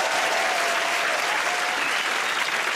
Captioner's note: cheers and applause